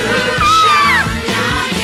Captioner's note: Sweet Polly Purebred Screams